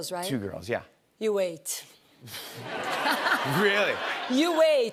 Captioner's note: laughter